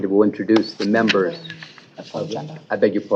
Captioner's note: indistinct chatter